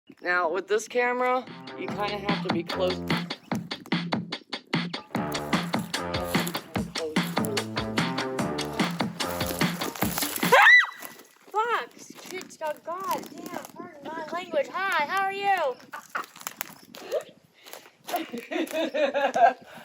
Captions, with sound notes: Now, with this camera, you kind of have to be close... [Scream] F**k! Pardon my language. Hi, how are you? [Laughing]